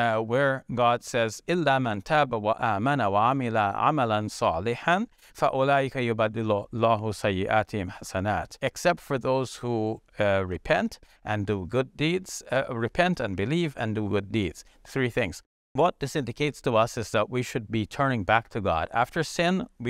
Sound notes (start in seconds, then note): 1.8 speaks in foreign language